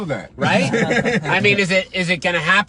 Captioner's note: laughing